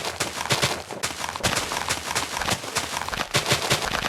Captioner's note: deafening rustling of leaves. The twilight sapling is grafted onto a machine